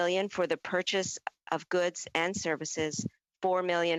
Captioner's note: speaking French